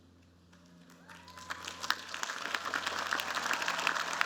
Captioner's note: applause